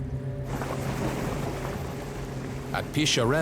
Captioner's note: bubbling